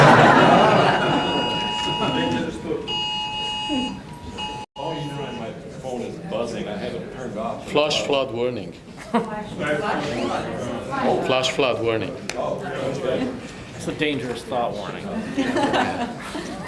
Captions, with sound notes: (all laughing) My phone is buzzing, I haven't turned it off. - Flash flood warning. (audience reacting) Flash flood warning. - Oh great. It's a dangerous thought warning.